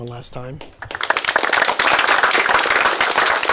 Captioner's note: applause